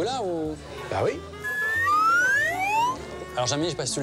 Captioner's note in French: bruitage